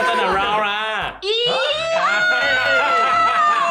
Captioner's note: shrieking